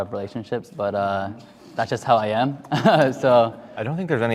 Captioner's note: laughs